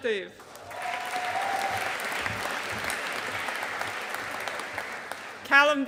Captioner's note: audience applauding